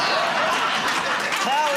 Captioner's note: laughter